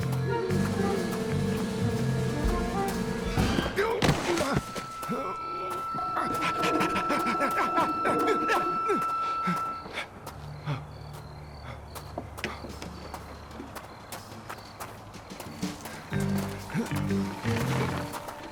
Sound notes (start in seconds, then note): 0.1 owl hoots; 3.6 Homer grunts; 6.1 Homer grunts; 16.0 quirky suspense music